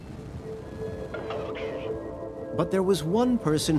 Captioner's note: radio squawking